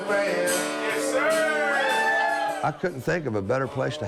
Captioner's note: cheering